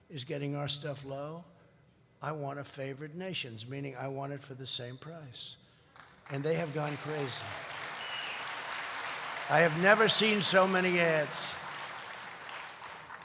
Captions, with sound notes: is getting our stuff low, I want a favored nations. Meaning, I want it for the same price. And they have gone crazy. (applause) I have never seen so many ads.